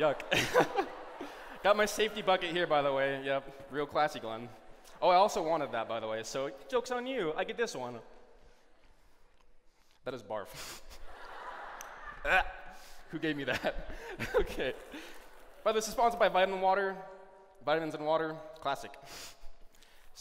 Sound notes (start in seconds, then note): 0.2 laughs; 10.9 laughter; 12.5 gagging